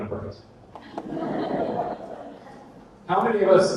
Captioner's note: audience laughter